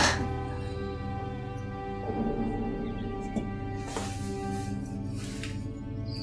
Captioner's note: cloister bell ringing